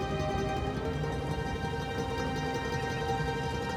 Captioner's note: none